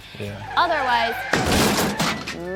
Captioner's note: tires screeching